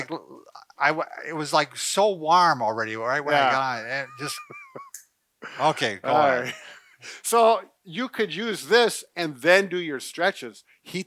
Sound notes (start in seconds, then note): 3.2 laughs